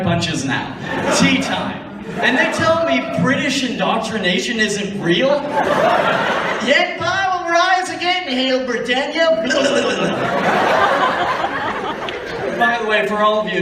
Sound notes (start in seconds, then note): 7.1 british racism voice